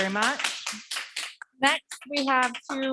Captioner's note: audience members clapping